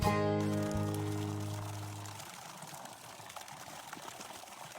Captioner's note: water trickling